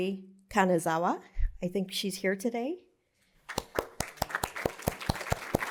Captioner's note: applause